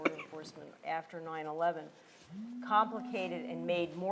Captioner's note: cough